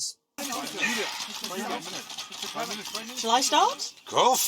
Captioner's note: reporters clamour